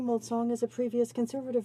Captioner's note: speaking French